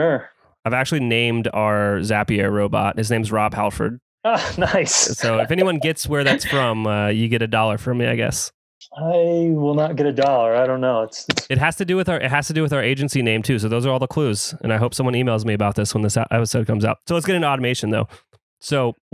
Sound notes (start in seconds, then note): 4.3 laughs